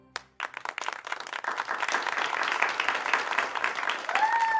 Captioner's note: audience applauding